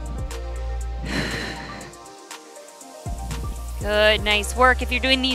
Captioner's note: exhales